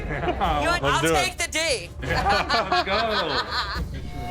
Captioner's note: laughs